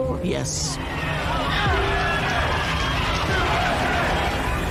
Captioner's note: crowd yelling